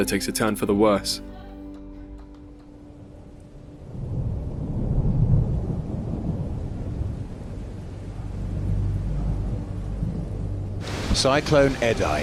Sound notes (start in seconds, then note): 3.3 rumble of thunder